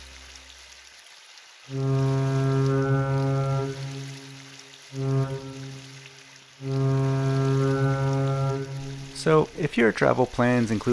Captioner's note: ship's Horn